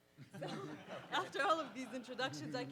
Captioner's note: participants laugh